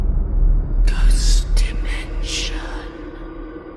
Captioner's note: ghostly Voice